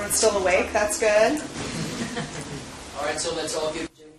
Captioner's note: laugh